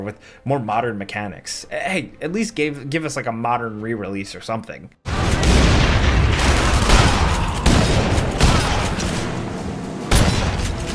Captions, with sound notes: with more modern mechanics. Hey, at least give us, like, a modern rerelease or something. (guns blasting) (tense dramatic music)